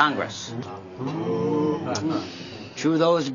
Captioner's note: booing